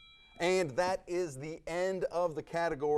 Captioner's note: timer dings